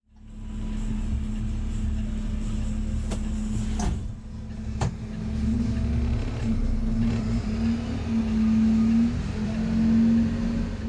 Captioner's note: truck engine humming